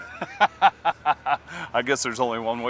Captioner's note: laughter